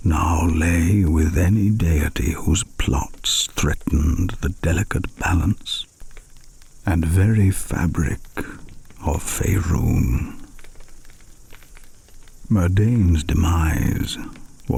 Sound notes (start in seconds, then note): 10.7 fire crackling and night insects buzzing